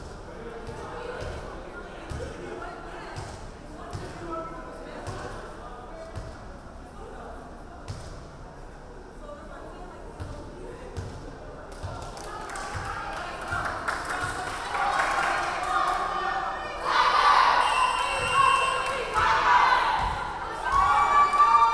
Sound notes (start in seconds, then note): 12.0 crowd clapping; 15.1 players chanting; 17.5 referee whistling; 18.6 players chanting